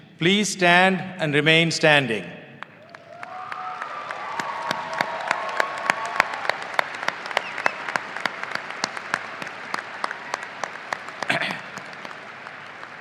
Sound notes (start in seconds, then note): 5.6 audience applauding and cheering